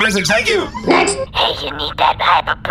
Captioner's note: voicemail plays